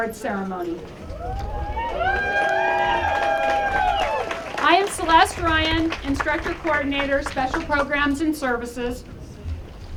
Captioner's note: applause